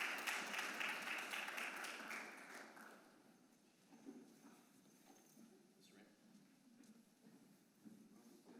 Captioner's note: applause